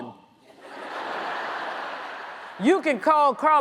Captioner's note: audience laughs